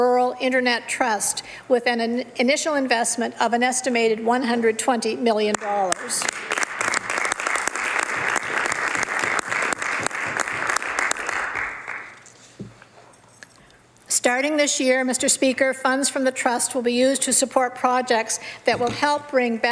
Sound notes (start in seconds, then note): 11.5 some Applause